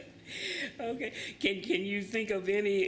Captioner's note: laughs